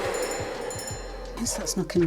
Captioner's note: cake mixer whirring